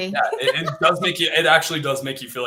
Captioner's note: laughter